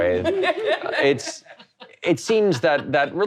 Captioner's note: all laughing